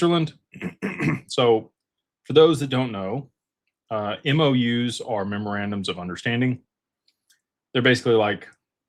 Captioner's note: clears throat